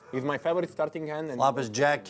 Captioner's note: voiceover